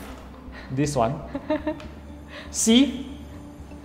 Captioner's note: laughs